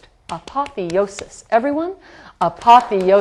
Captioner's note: tapping in the background